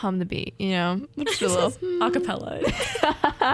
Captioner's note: hums; laughter